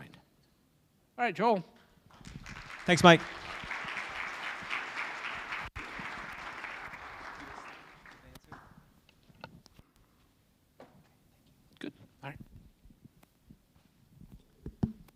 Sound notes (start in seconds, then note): 8.4 applause